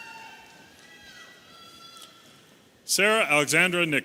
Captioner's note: audience cheering